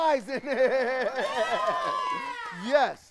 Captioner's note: children applaud